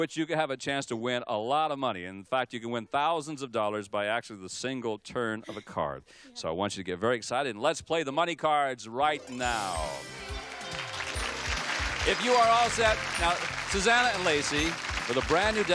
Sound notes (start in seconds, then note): 9.7 applause; 11.1 theme music playing